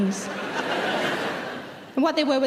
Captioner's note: audience laughing loudly